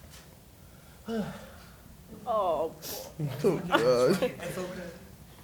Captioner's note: deep exhale, chatter